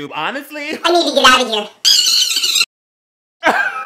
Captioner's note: shrieks unholy... ly? i dont fucking know